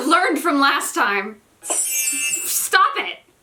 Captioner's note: another super loud bell sound